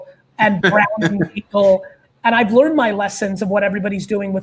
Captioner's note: laughs